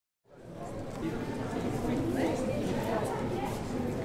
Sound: people chatter

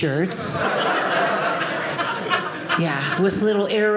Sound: audience laughing

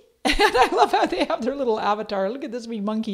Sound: laugh

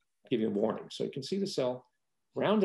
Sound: speaking faintly

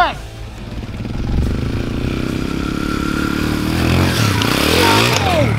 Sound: dirt bike engine revving

